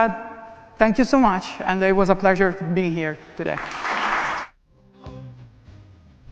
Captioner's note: applause and cheering